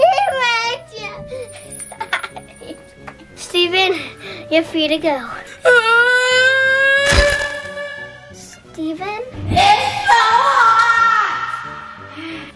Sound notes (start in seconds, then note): 1.7 laughter; 5.8 yells